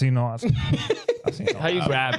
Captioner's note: laughing